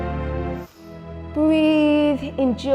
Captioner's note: inhales